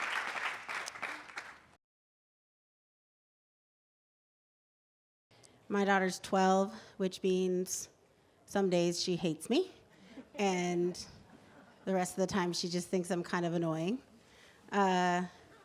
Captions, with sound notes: My daughter’s 12, which means some days she hates me. [LAUGHTER] and the rest of the time she just thinks I’m kind of annoying.